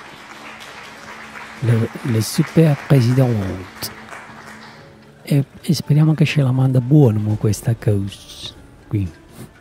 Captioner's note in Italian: Applauso